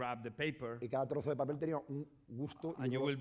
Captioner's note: speaking spanish